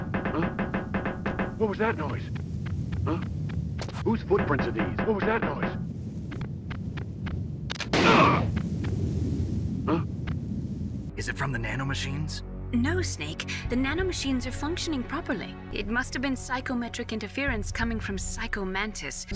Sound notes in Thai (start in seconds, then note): 0.0 ก๊อกๆๆๆ; 3.7 ก๊อกๆๆๆ; 7.6 เปรี้ยง!!